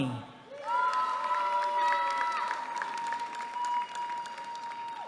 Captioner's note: applause